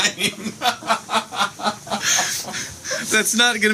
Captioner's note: laughter; more laughter